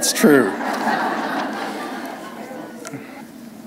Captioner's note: laughter